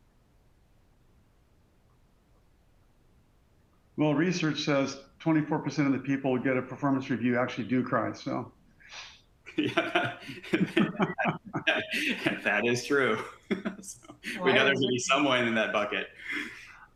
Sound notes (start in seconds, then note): 9.5 laugh